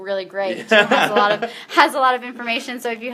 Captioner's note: laughter